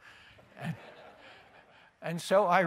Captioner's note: laughter